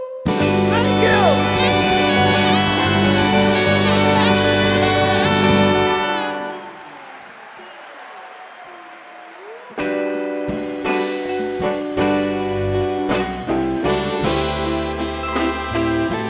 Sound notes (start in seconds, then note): 4.0 audience cheer and clap; 9.7 mid tempo music